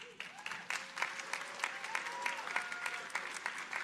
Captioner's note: audience applauding